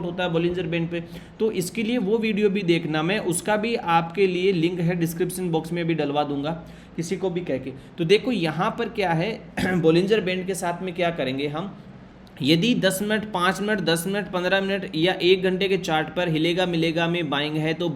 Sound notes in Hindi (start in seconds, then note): 9.5 गला साफ़ करने की आवाज़